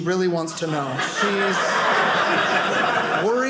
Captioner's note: audience laughing